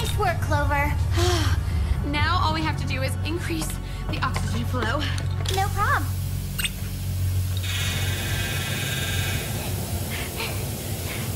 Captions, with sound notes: Nice work, Clover. [exhales] Now all we have to do is increase the oxygen flow. No prob. [oxygen whooshing] [both breathing deeply]